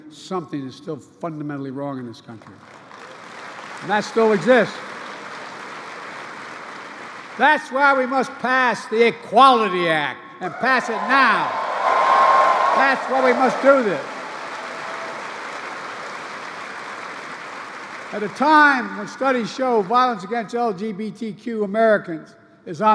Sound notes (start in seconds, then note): 2.3 applause; 12.0 applause